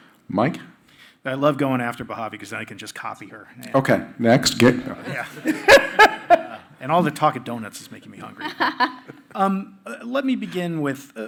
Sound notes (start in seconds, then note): 5.0 laughs